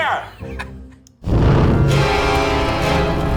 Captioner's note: chuckling; ominous music